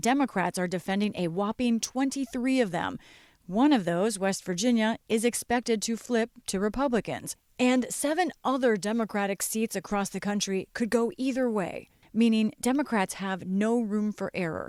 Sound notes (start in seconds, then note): none